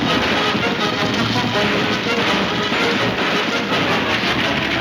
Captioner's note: gunshots banging